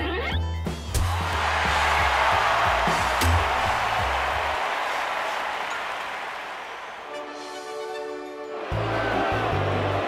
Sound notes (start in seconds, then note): 1.1 crowd cheers; 8.5 crowd boos